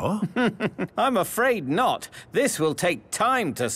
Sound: chuckling

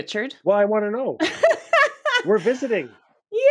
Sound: laughing

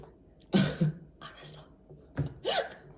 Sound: whisper; whisper

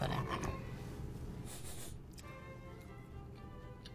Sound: sniffing

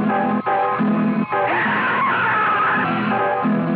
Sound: scream

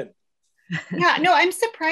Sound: laughs

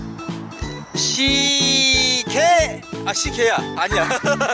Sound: lols

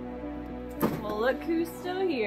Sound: bag drops

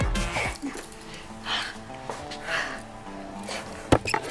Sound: exhales sharply; cupboard opening

